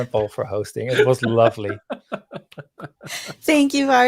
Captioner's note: laughing